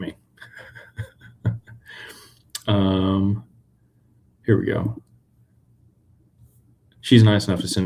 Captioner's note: laughter